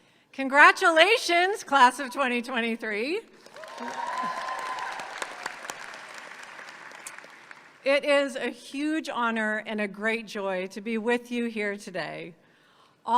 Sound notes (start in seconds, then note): 3.4 audience cheers and applauds